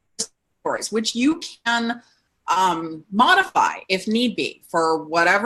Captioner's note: audio distorts